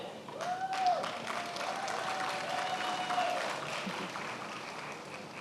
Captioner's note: attendees applauding